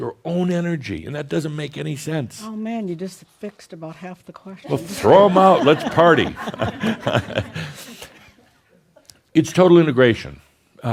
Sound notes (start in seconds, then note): 5.0 some chuckles; 8.8 chuckles